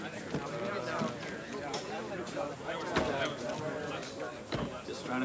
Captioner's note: crowd chattering